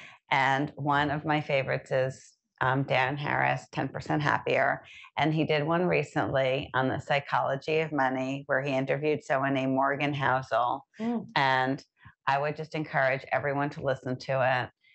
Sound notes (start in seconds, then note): none